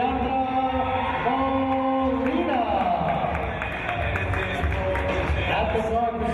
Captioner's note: applause